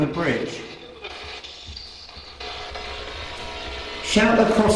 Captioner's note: static buzzing